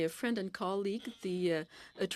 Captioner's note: speaking in french